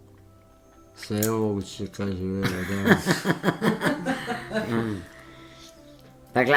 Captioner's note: laughter